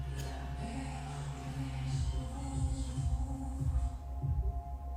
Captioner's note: person speaking softly in foreign language; gentle, rhythmic music